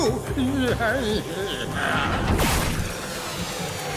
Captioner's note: laughs